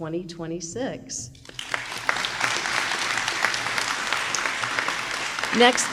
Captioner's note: applause